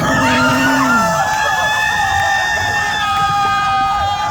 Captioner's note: screeching